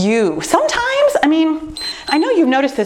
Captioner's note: timer beeps